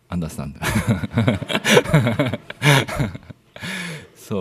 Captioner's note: laughter